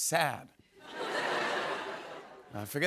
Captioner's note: laughter